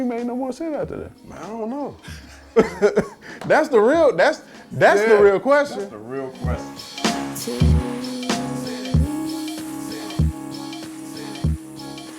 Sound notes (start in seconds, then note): 2.0 laugh; 7.0 rhythmic instrumental music